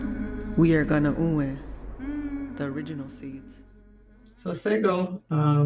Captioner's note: speaking foreign language